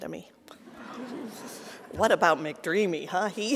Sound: audience laughing

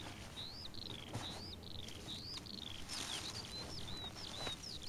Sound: bird twitters

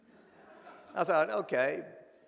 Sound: audience laughs

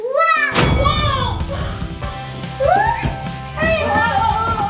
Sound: screaming; laughing

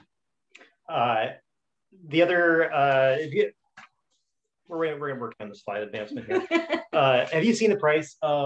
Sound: laughs

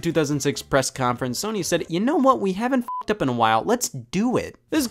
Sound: beep

